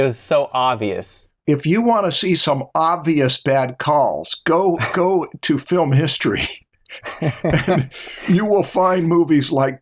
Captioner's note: laughter